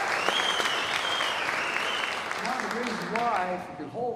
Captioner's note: applause